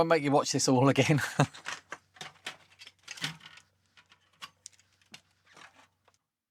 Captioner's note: laughter